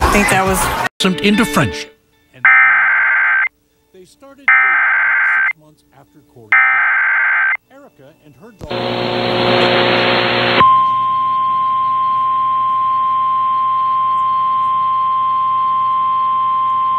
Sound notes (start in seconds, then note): 2.3 SAME header tones; 10.5 1050 HZ tone